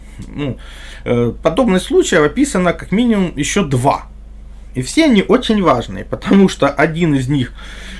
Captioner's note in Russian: откашливается